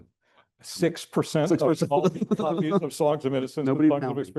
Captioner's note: chuckles